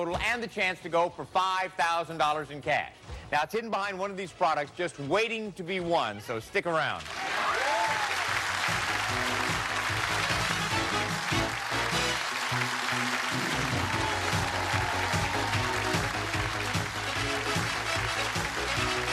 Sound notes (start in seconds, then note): 7.9 cheers and applause; 14.5 upbeat music